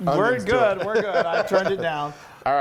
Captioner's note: laughs